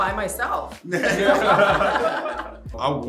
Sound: all laughing

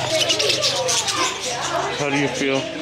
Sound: laughs; birds chirping

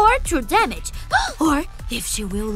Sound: gasp

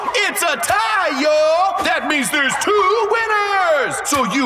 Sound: crowd cheers

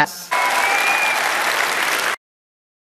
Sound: audience cheering

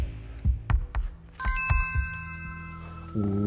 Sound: bell ringing

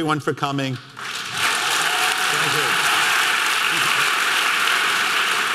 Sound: audience clapping

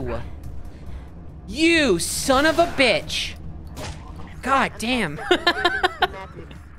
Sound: laughing

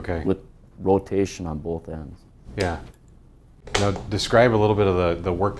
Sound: pat

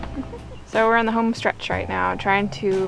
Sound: chuckles

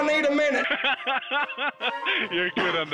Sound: laughing

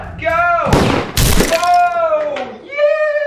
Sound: gunshot and crashing

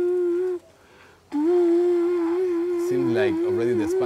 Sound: blowing continues

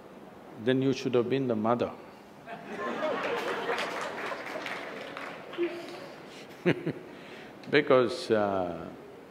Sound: laughter

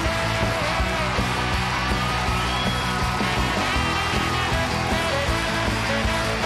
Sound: audience cheers and applauds; upbeat music

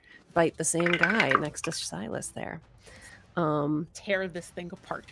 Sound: dice clatter

